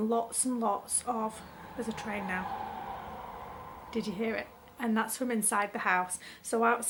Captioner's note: train roars past in background